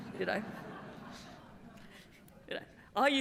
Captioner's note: laughter